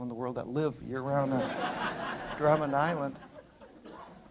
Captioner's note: laughter